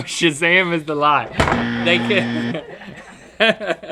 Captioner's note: hits table; all laughing